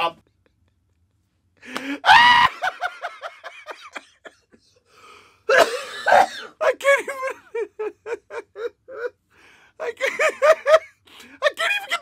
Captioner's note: maniacal joker laughter